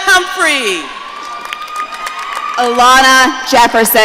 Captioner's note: audience cheering